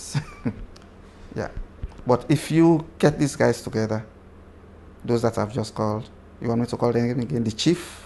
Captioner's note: laughs